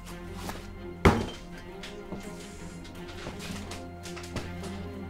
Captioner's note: boot stomps; suspenseful music continues